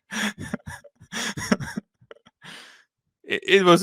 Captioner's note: laughs